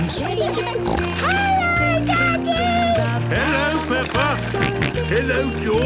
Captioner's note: snorting; George snorting